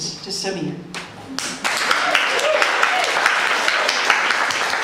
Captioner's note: applause